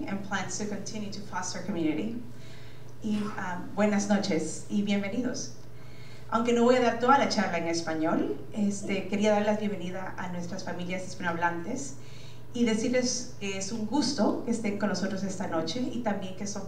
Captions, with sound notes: and plans to continue to foster community. (speaking in foreign language)